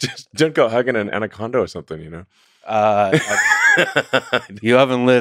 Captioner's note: laughs